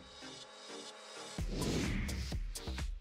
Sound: swoosh sound

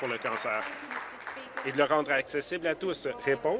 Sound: applause

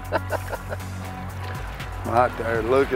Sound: laughs

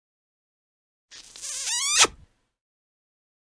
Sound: sound of kiss

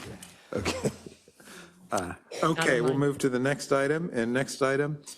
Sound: laugh

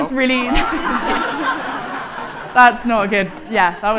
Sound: audience laughing

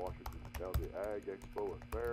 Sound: typing sounds

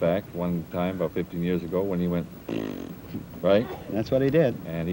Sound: blows raspberry

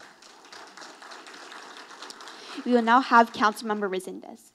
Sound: audience applauding

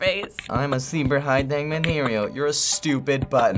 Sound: mockingly

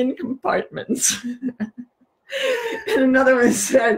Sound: both laughing

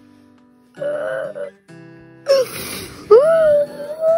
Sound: sniffling

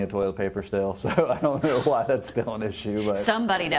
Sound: laughing

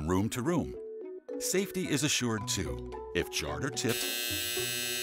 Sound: buzzer

